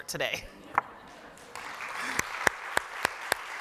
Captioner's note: applause